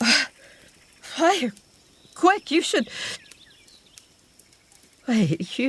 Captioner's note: flames erupt